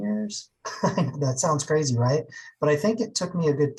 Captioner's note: laughs